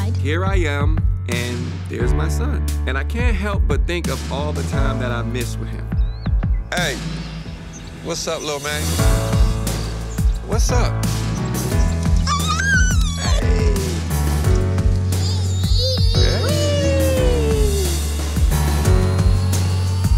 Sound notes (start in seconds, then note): 12.5 squeals; 17.5 upbeat music